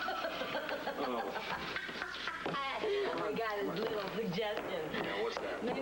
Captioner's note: roxy laughs